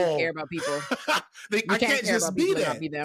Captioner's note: laughing